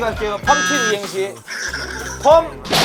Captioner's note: tired, Laughing